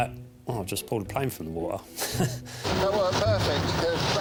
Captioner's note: chuckles